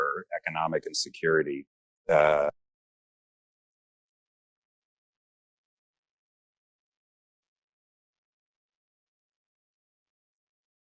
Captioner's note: audio break